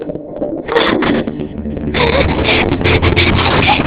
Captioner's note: panting